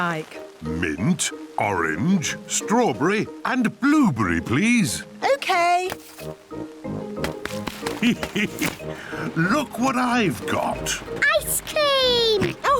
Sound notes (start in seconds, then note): 7.8 laughs; 12.6 laughs